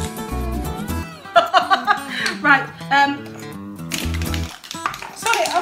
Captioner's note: laughs